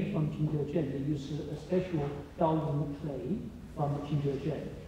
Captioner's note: speaks foreign language